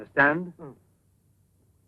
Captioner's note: Sacha mumbles